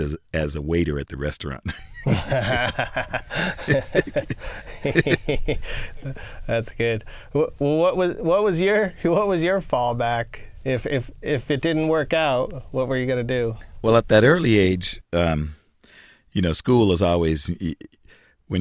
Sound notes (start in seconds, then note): 1.7 laughing